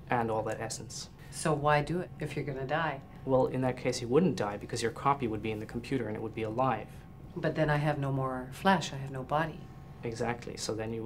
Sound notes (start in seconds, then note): none